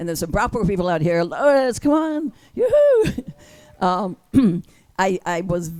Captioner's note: people cheer